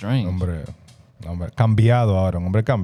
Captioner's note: speaking In Foreign Language